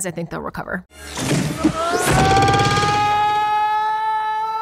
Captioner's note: Harry yells